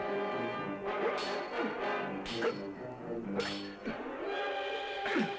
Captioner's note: steel clanging, grunting